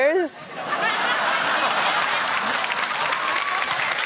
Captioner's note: laughter, applause